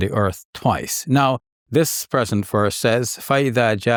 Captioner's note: speaks in Arabic